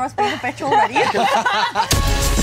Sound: laughter; upbeat music

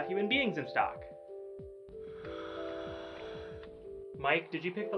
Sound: scuba breathing

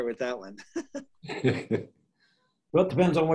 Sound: chuckling

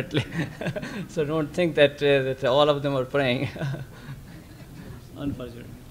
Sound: laughs; laughs

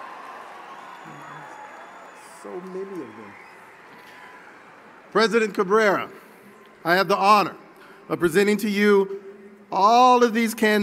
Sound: cheering

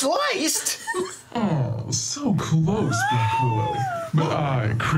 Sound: group laughter; altered voice

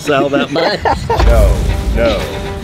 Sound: laughing

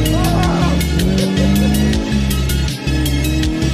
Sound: men laughing

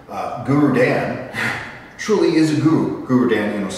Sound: chuckle

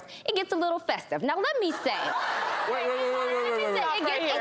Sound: laughter

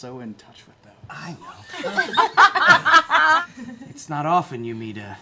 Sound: laughter

